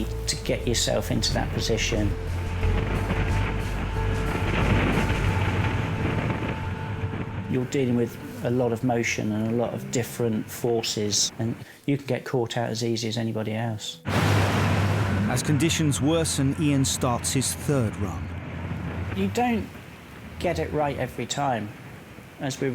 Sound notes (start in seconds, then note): 2.7 wind whipping